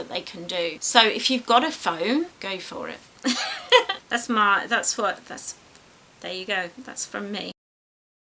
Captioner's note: laughs